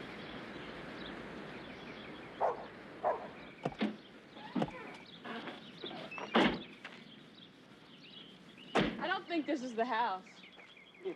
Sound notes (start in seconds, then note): 3.0 dog barking